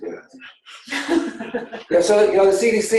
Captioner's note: laughing